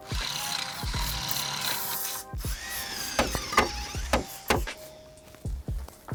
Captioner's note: drilling soung; hammering sound